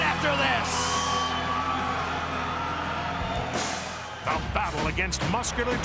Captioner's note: crowd cheering